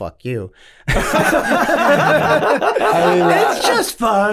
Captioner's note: all laughing